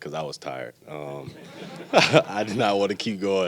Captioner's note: light laughing